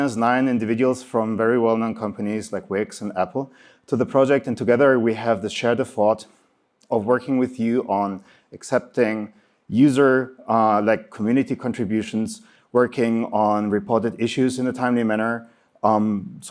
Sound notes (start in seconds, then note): none